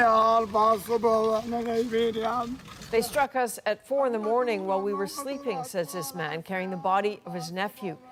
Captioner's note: speaking alternate language